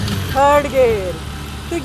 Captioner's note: gear shifts